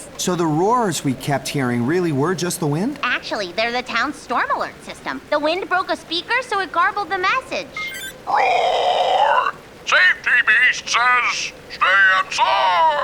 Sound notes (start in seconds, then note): 8.3 low, gruff voice